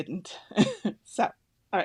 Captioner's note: laughs